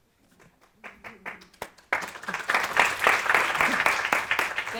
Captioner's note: audience applauding